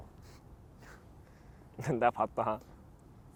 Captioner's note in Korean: 침묵